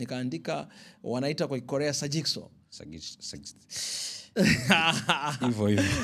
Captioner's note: laughter